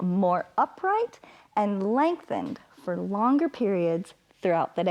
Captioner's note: inhales